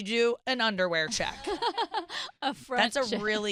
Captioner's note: laughing